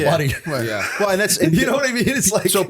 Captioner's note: laughter